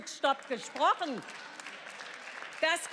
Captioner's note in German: Beifall